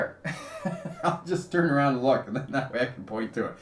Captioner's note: laughs